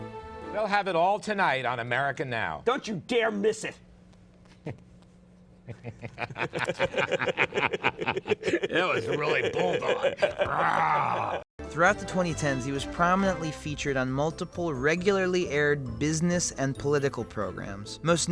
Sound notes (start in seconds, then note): 4.0 both laughing